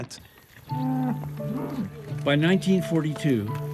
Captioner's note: cows mooing